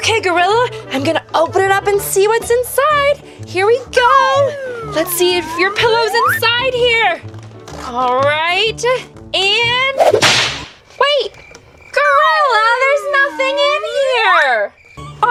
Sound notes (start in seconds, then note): 9.9 whip cracks; 10.5 crickets chirping